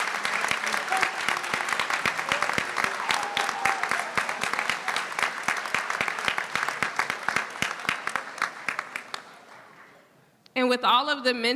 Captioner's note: cheers